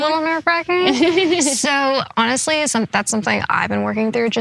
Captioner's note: everyone laughs